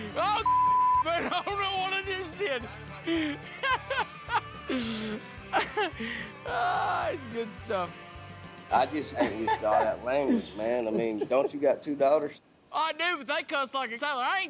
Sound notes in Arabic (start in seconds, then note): 2.1 شتم، ضحك; 3.7 يستمر في الضحك